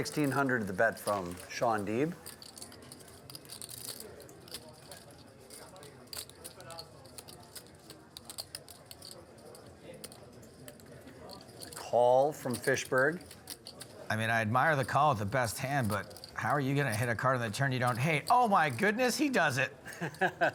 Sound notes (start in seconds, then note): 2.6 poker chips clacking